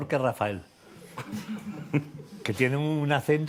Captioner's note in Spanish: Risas